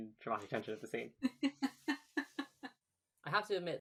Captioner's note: laughing; laughs